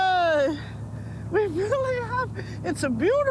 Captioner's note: laughs